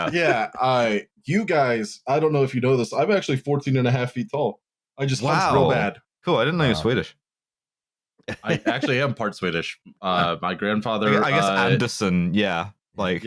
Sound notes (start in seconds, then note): 8.2 laughter